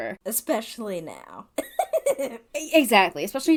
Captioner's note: laughs